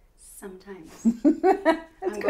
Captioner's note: laughs